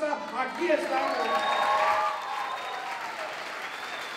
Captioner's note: non-english speech; applause